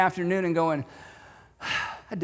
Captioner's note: sigh